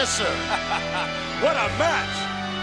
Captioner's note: laughing